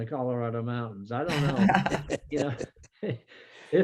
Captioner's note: laughing